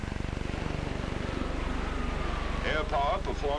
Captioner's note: engine rumbling